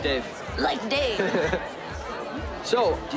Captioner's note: laughs